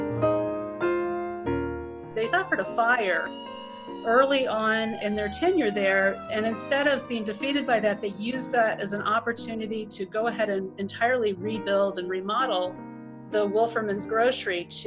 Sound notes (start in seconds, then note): 3.0 fire engine sirens chime